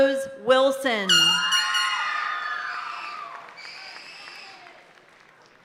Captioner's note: party horn blaring